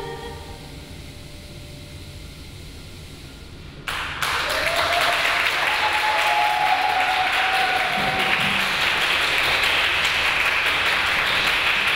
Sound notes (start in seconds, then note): 3.8 audience applauding; 3.9 audience cheering